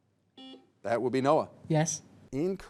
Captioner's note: buzzer beeps